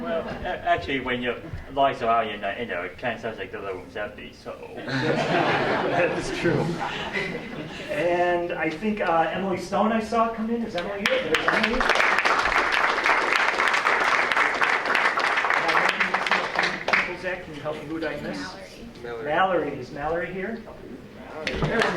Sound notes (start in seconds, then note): 4.8 laughter; 11.0 applause